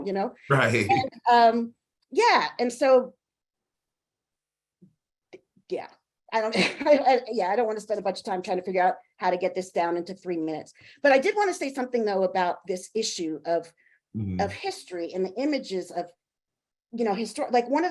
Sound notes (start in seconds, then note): 0.5 chuckling; 6.5 chuckling